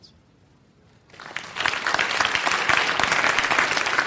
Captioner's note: applause